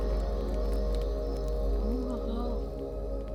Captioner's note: fire cracking